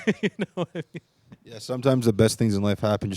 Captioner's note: laughing